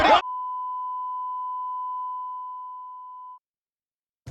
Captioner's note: extended beep plays